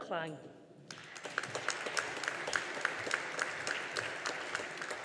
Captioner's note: audience applauding